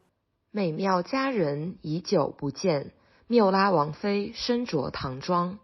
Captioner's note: speaker reading in Chinese